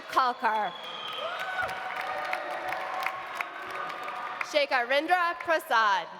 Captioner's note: audience applauding; audience cheering